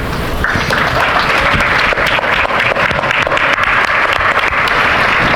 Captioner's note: audience applauding